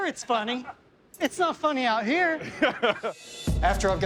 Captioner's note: chuckles